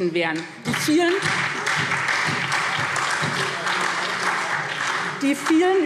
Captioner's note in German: Beifall SPD